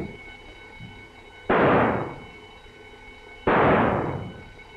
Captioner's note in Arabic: إطلاق نار